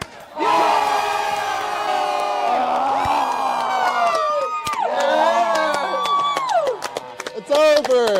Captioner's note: cheers